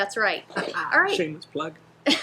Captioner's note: laughing